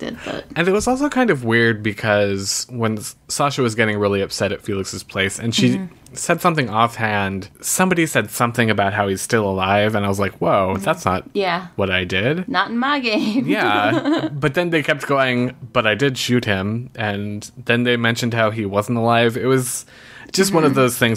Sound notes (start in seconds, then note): 13.4 laughs